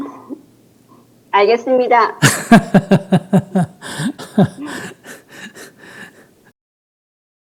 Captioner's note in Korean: 스님 웃음